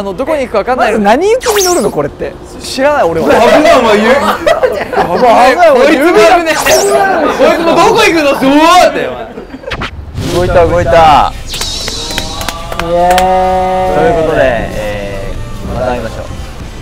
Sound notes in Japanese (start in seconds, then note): 1.4 効果音 シュピッ; 11.2 効果音 シャキーン✨